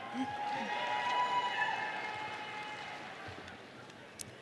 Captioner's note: audience cheering